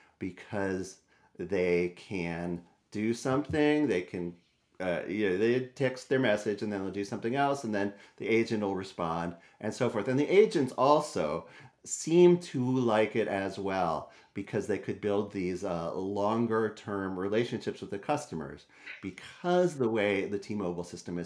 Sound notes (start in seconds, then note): none